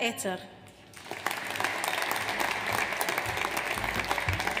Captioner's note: audience applauds